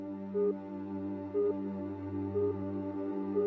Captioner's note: beeping